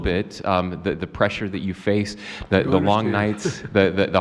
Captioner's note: laughs